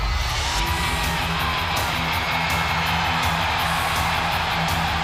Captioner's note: audience cheering